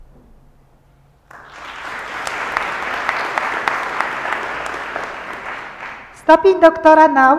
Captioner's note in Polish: oklaski